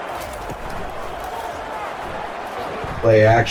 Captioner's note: crowd Noises